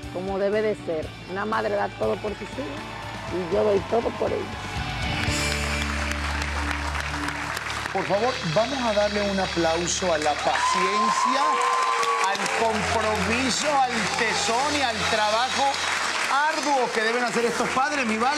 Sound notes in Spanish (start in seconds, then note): 4.1 Aplausos; 4.1 Gritos